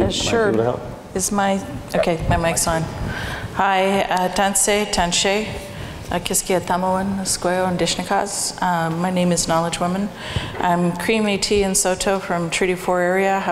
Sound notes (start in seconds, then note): 4.8 foreign speaking